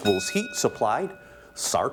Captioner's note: ding